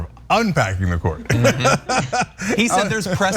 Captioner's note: laugh